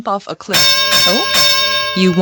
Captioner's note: boxing bell rings